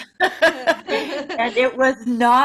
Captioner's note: ladies laughing